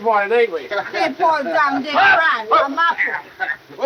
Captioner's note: all chattering